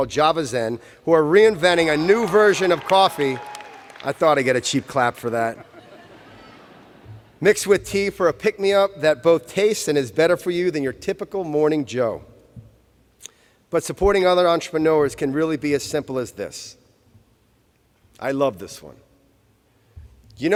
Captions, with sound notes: Java's End, who are reinventing a new version of coffee. (Cheers). Mixed with tea for a pick me up that tastes good and is better for you than the typical morning Joe. But supporting other entrepreneurs can really be as simple as this. I love this one.